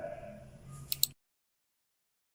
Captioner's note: mouse click